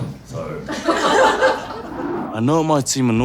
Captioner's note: laughter